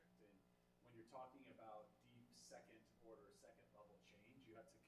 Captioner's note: none